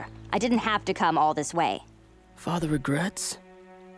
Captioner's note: none